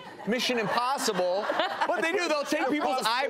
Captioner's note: audience laughs